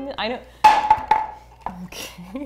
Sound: bottle thuds

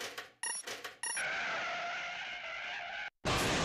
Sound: screeching; crashing

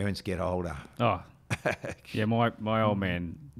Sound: chuckles

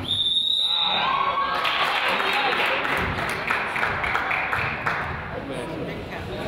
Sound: whistle blows; crowd applauds

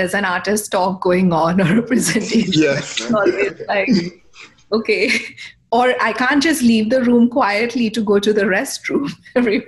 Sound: laughter

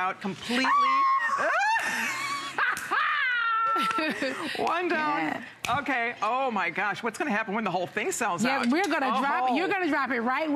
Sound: laughter

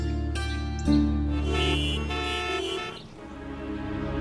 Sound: cars honking

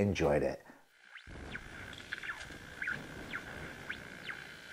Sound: logo crackles

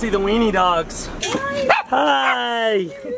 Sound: dog barks

